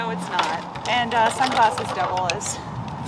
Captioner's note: plastic shuffling